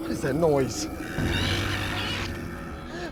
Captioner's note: squealing continues